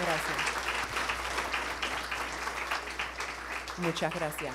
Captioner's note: attendees applauding; speaking in foreign language